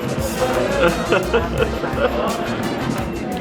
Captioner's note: laughing; upbeat music